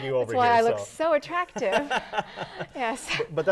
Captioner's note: laughing